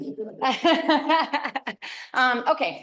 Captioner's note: laughs